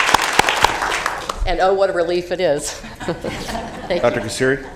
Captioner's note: applause